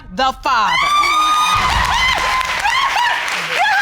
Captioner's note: cheering and shouting